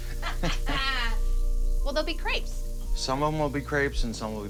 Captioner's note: laughter